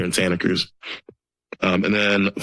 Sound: sniffles

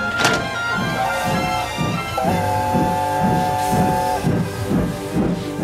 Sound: Gordon's whistle

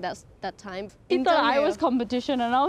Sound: speaks in foreign language

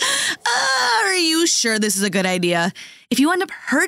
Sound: in Cantonese

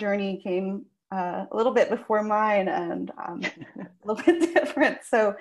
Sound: laughs

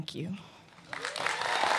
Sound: cheers and applause

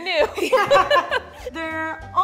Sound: laughing

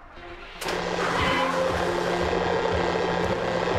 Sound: tires screeching

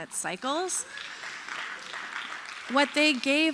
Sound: applause

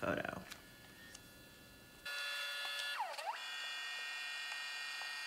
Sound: printer whirring

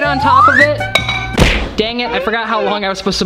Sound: slam

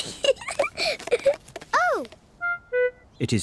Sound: giggles

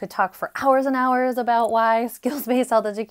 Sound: chuckles

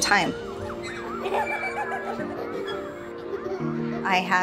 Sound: children laughing

